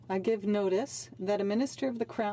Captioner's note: speaking in French